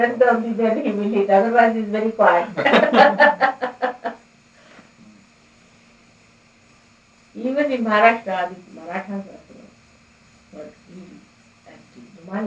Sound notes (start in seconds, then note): 2.5 laughter